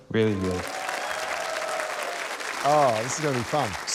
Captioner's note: cheering, applause